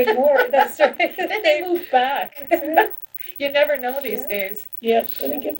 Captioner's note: laughs